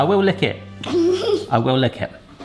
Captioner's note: chuckles